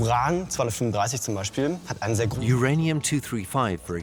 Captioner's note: in German; dubbed in English